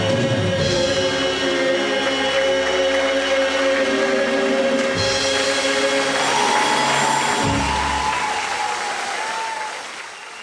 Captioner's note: audience applauding